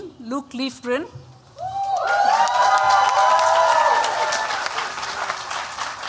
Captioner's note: cheering